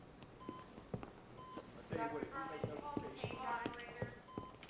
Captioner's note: indistinct chatter